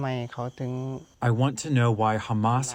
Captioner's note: through translator